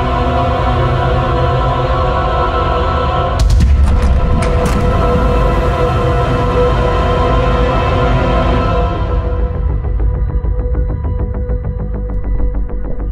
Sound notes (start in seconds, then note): 3.8 door rattling; 10.0 suspenseful music